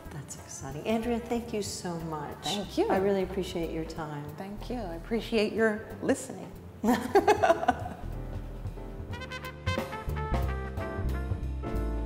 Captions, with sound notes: >>That's exciting, Andrea thank you so much. >>Thank you. >>I really appreciate your time. >>Thank you, I appreciate your listening. (both laughing) (jazz music)